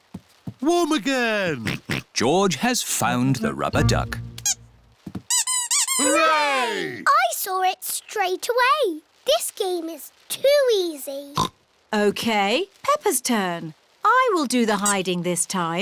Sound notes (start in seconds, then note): 1.6 oinks; 5.3 duck squeaks; 11.2 oinks